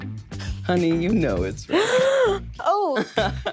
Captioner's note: gasps